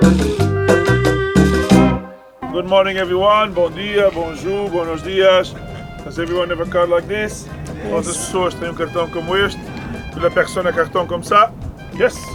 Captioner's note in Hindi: पुर्तगाली में बोलता है